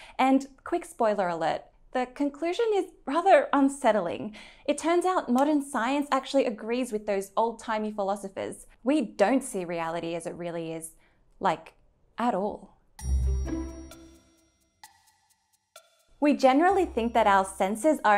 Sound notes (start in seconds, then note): 13.0 bell chimes; 13.0 bright music